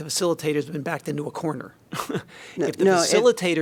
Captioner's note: laughter